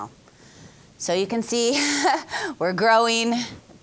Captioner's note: laughing